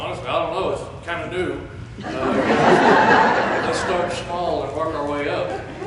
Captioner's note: laughter